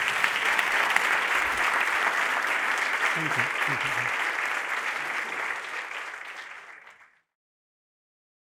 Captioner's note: applause